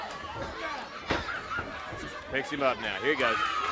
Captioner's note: crowd cheering